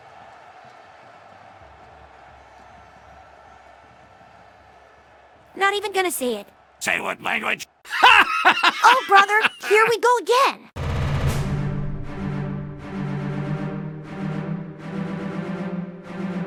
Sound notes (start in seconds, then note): 6.8 starts laughing